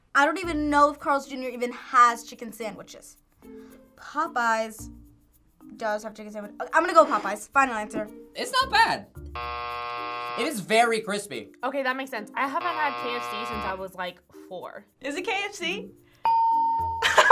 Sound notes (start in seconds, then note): 9.3 buzzer rings; 16.2 bell rings